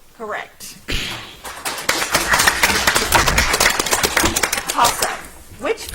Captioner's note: audience applauds